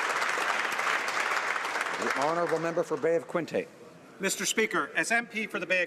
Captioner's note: applause